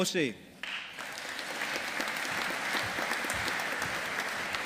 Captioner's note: audience applauding